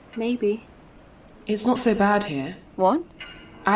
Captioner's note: clock ticking slows, echoes. strange howling